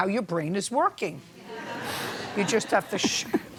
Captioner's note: laughter